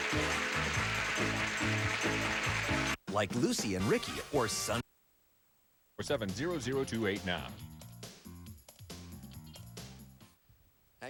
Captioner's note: audience applauding